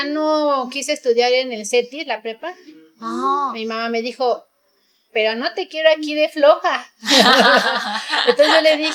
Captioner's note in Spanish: risas